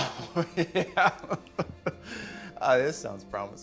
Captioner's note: chuckling